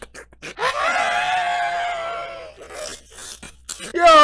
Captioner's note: wheeeeeeze; wheeeeeeze but slower